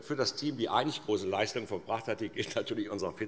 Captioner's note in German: none